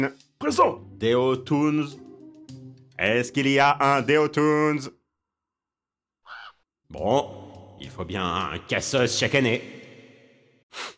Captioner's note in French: Cri de corbeau